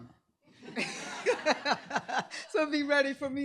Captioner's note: laughter